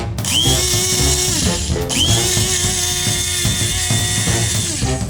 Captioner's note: spice grinder whirring